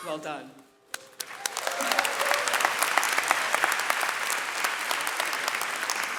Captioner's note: audience cheering and clapping